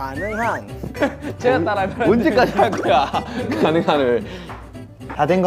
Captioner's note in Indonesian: Anggota lain geli